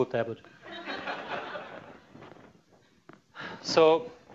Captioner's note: laughter